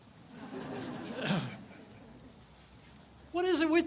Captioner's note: audience laughs